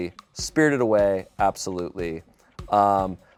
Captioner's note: none